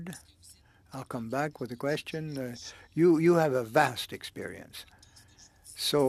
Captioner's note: speaking French